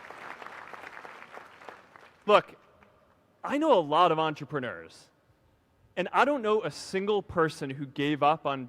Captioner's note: applause